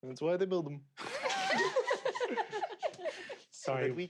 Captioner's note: players laughing